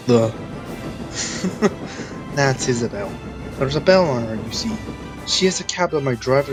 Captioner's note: chuckles